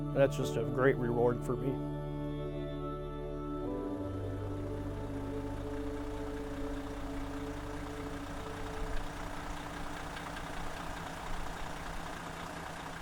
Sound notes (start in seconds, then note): 3.7 classical music; 8.1 motor running